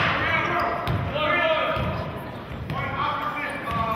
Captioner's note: yelling